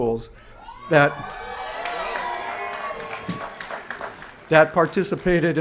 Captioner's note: applause & Cheering